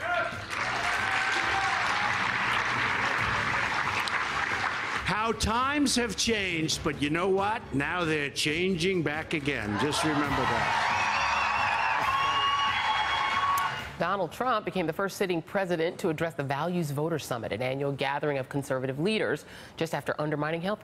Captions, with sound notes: IN THE DECLARATION OF INDEPENDENCE, FOUR TIMES. [ APPLAUSE ]. >> HOW TIMES HAVE CHANGED. BUT YOU KNOW WHAT? NOW THEY'RE CHANGING BACK AGAIN. JUST REMEMBER THAT. [ CHEERS AND APPLAUSE ] >> DONALD TRUMP BECAME THE FIRST SITTING PRESIDENT TO ADDRESS THE